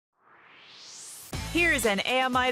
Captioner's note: swoosh